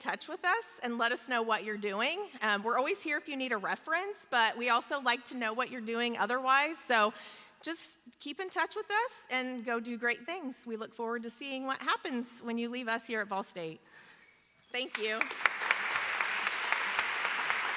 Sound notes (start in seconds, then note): 14.8 applause